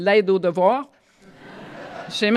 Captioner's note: laughter